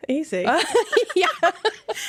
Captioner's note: laughing